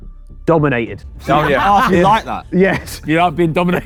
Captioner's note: group laughing